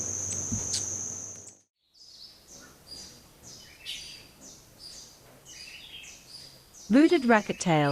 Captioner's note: bird chirping; bird's wing flapping; birds singing and chirping